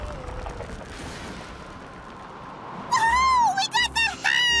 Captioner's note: distant crash